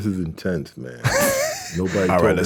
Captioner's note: laughing